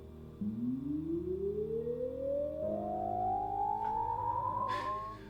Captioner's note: cell phone whirring